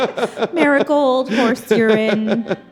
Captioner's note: panelists laugh